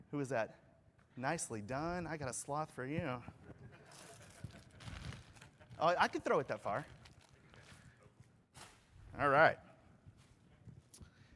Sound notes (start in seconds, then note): 1.6 laughter